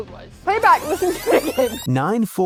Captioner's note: laughing